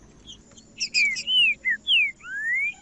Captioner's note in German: trinca ferro cantando